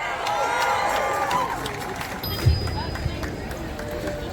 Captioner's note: applause